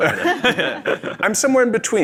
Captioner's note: group laughs